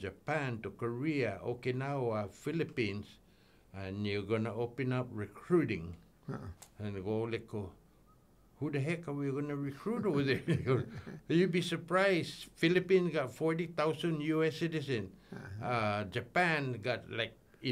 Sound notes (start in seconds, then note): 10.0 laughing